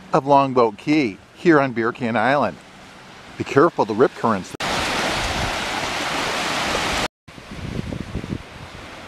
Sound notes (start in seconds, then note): 4.7 waves splashing